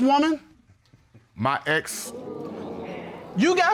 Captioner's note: audience exclaims